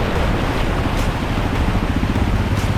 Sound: A car going through the water

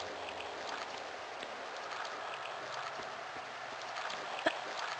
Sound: water noises

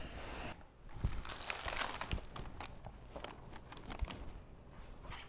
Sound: paper bag rustles

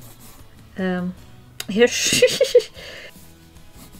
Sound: laughs

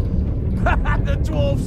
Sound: laughs

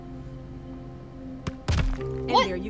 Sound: thump

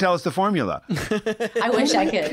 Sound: laughter

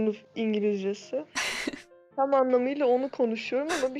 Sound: chuckling

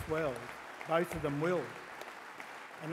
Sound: applause

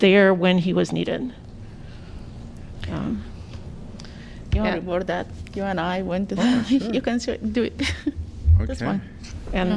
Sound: laughter

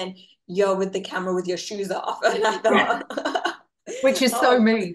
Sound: laughs

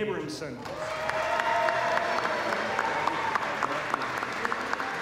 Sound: applause

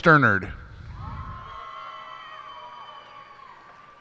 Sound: cheers and applause

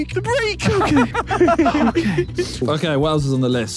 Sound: Vik and Tobi laughing

